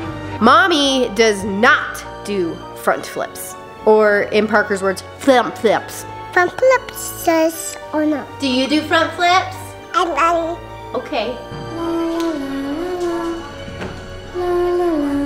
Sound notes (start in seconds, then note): 9.9 baby babbles; 12.4 creepy music